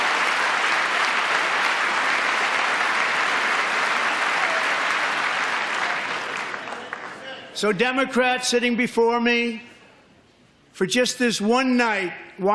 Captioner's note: applause